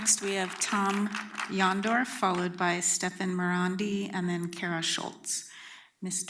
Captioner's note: applause